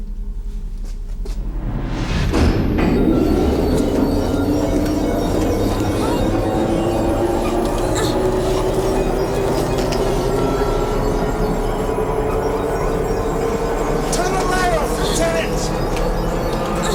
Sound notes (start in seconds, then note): 2.5 beeping and swooshing; 2.5 tense eerie music